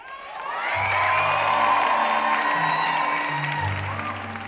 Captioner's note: audience applauding